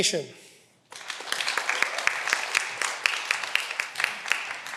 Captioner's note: cheering